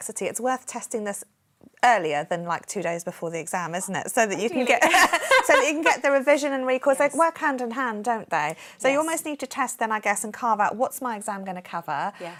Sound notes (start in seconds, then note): 4.7 laughing